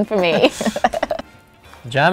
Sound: laughing

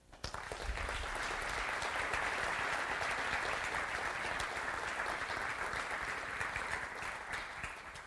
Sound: audience applauds

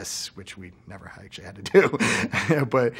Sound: laughs

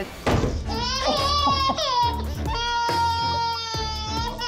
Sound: loud crash; baby cries

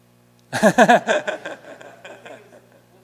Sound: laughter

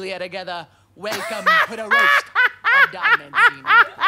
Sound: boisterous laughter

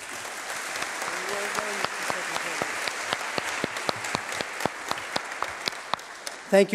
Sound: applause

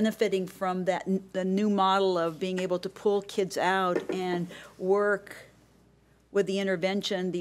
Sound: none

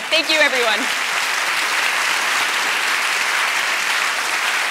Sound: audience applause

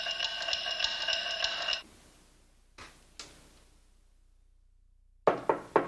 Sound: clock ticking

